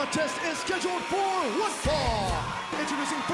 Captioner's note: bell ringing